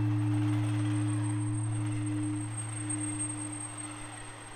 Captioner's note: distant engine rumbling